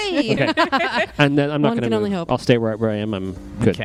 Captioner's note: laughs